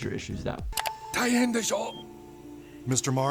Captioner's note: Randy speaking Japanese